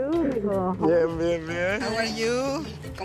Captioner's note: speaking Spanish